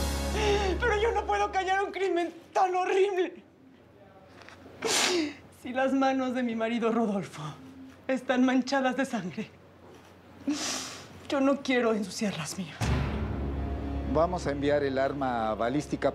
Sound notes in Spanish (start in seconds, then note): 0.2 Sollozos; 4.8 Sollozos